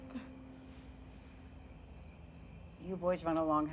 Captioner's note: Howie sobs